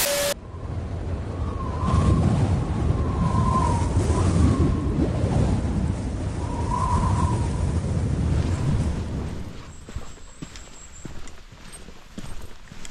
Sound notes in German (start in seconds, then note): 1.9 Wind rauschen